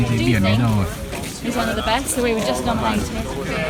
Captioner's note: voice of visitors